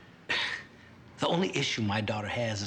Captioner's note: scoffs